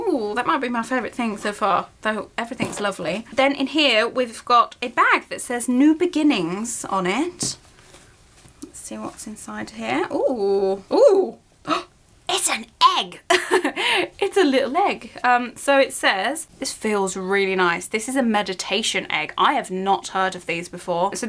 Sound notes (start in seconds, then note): 11.2 gasp